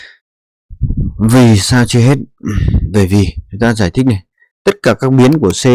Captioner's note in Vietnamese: hắng giọng